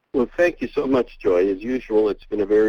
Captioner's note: voiceover